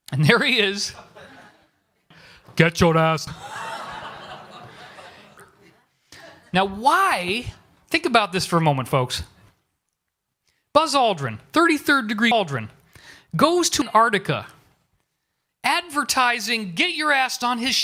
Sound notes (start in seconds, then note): 2.3 Schwarzenegger Voice; 3.4 awkward laughter